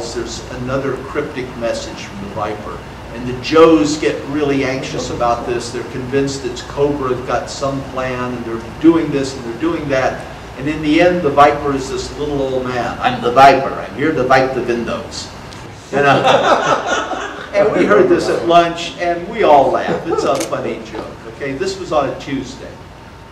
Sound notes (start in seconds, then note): 15.9 audience laughter